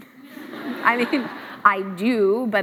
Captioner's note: laughs